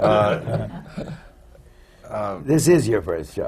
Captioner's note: laughter